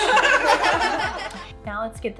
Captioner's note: laughter